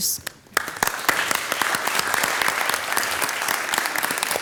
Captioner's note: all applauding